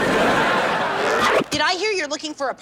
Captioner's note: audience laughs